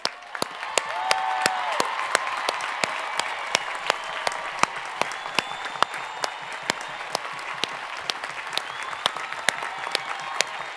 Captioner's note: cheering and Applause